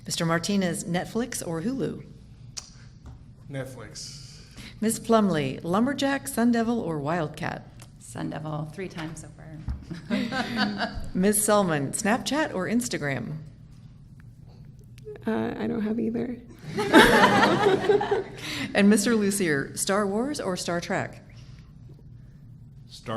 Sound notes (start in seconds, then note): 9.9 laughing; 16.7 everyone laughing